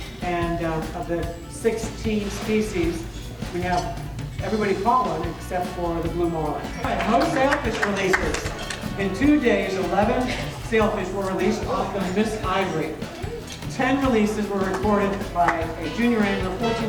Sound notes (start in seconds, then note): 6.8 applause